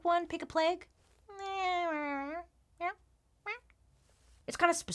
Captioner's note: meows